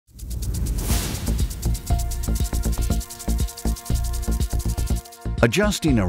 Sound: sprinkler clicking; gentle music

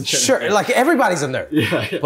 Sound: laughter

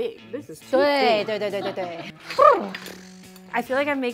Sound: speaking in mandarin

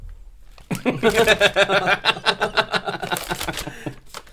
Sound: Embarrassed For James Laughter

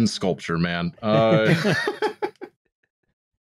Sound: laughter

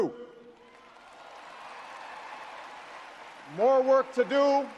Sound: audience cheers and applauds

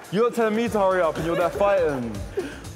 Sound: arguing

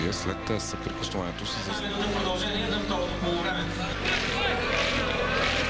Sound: recording playing

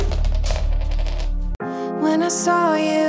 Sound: ring clattering

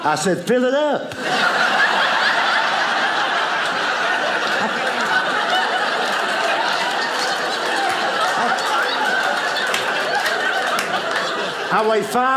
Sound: audience laughing

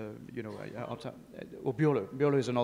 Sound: speaks faintly

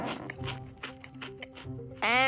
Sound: munching

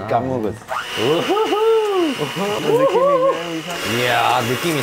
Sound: excited

